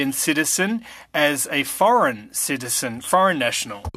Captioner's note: speaking French